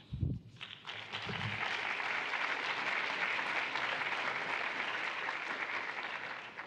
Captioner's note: applause